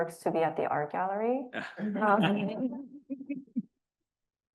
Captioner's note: laughs